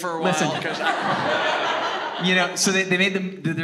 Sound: audience laughing

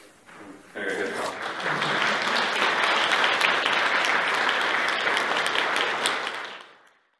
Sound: applause

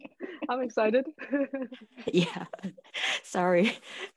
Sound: all laughing

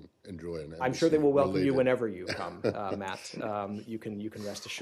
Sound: laughter

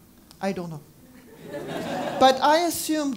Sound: laugh

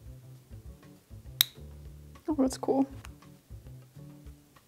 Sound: swab snaps

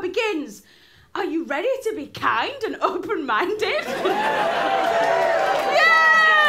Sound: cheers

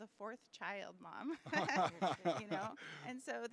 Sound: laughing

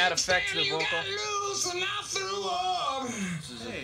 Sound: echoing

